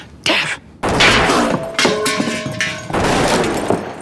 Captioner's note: gun fires